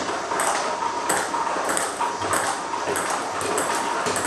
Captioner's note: ball ping pong hitting